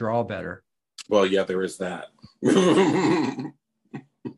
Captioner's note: laughs